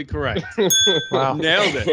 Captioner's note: laughter; bell dings